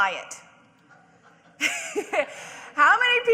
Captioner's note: audience and speaker laughing